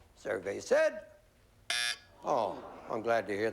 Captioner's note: buzzer